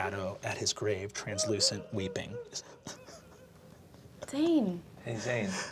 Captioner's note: echoing crying